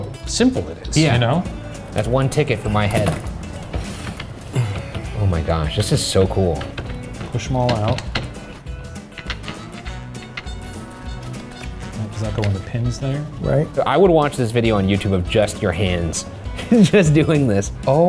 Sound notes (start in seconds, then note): 6.5 device rattling; 8.5 device rattling; 8.5 upbeat music continues; 16.4 laughing